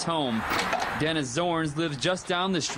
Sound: / :nats of door closing

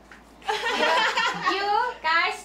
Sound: laughing

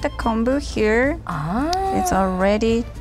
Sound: gasps

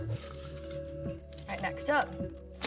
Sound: cards shuffling

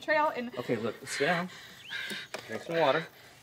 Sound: Margo panting

